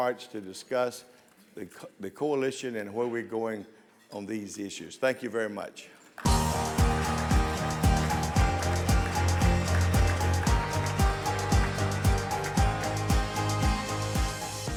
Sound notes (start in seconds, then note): 6.2 audience applauds; 6.2 bright music